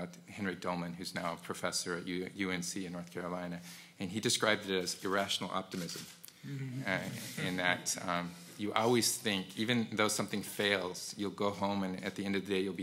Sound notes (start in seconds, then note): 4.4 laugh